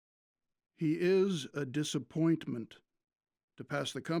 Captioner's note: Randolph Voiceover